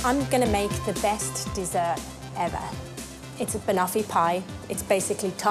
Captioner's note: none